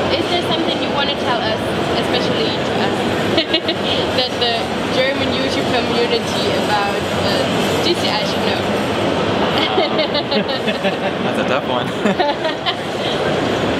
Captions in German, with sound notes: Gibt es etwas, was sie besonders der deutschen Freizeitpark-Community über "GCI" sagen wollen? *Gelächter* Oh, der ist schwierig